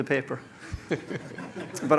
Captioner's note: laughter